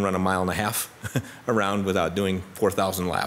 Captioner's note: chuckles